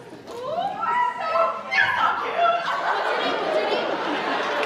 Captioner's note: performers shriek; audience laughs